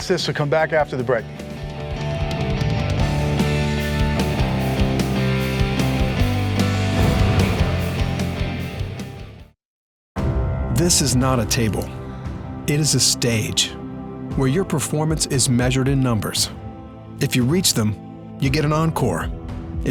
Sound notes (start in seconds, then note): 2.6 upbeat music; 11.0 voiceover